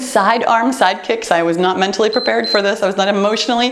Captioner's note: timer beeps